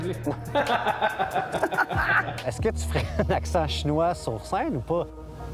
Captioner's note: laughs